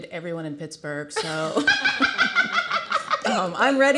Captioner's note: everyone laughing